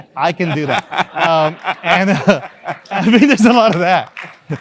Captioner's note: laugh